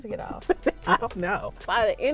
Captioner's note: laughing